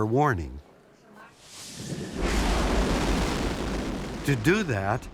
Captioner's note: explosive sound